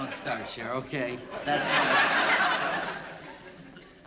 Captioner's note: laughter